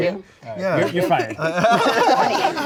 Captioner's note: laughing